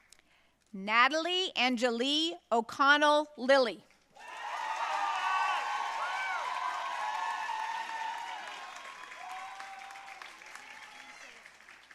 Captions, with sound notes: Natalie Angeli O'Connell Lillie. (audience cheering and applauding)